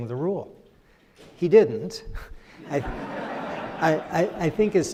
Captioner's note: crowd laughs